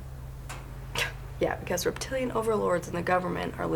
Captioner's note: scoffs